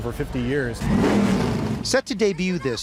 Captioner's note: engine revving